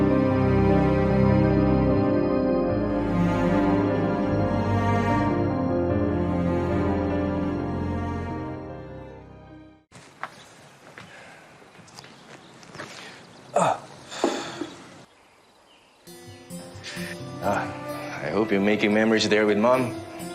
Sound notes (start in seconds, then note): 0.0 pensive music playing; 13.5 rafael grunts; 13.5 justin exhales deeply